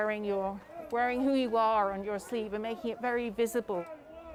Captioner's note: chanting